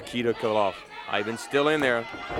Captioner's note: crowd chatter